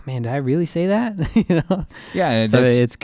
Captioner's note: laughing